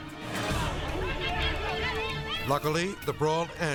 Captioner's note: people shouting